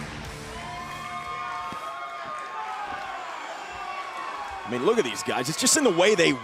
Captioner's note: cheers and applause